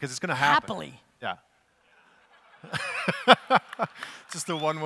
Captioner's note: laughs